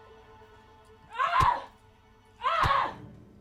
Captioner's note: woman screaming